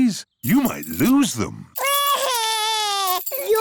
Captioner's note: crying